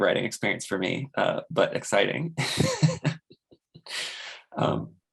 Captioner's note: laughs